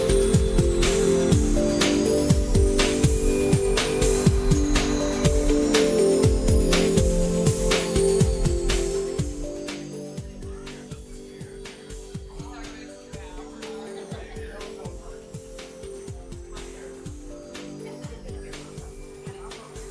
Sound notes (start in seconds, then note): 13.3 people laughing; 16.0 lively music